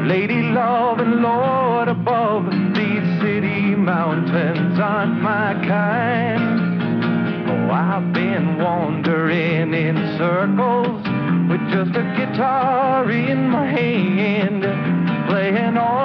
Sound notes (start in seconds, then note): none